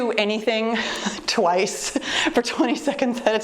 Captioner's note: chuckles